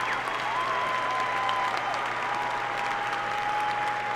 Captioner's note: applause